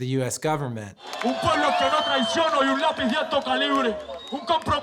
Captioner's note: hip-hop artist addressing crowd in Spanish